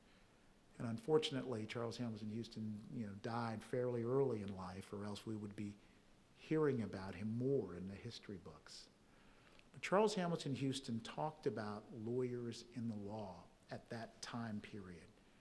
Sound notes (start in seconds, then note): none